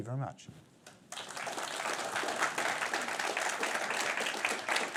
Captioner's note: applause